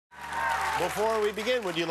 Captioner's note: cheers and applause